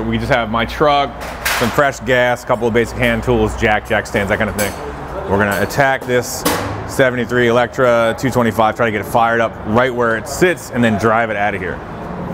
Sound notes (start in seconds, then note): none